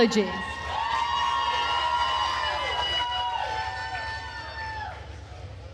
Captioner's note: attendees cheering and applauding